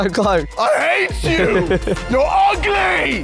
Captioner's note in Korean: 웃음